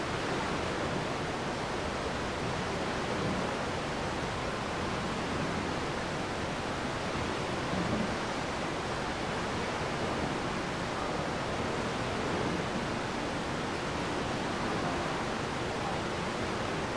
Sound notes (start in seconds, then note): 7.2 water rushing